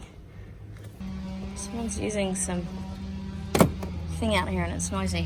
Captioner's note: loud power tools in background; clunk